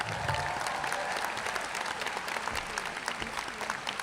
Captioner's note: applause